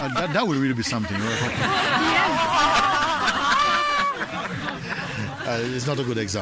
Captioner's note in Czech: smích